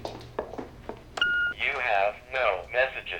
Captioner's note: beeps